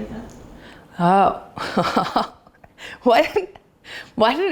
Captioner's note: laughs